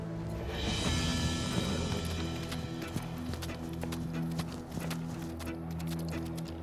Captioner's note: hoofbeats; suspense music